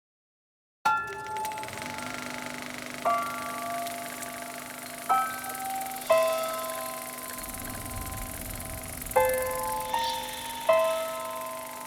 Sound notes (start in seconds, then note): 2.7 projector running; 3.2 gentle music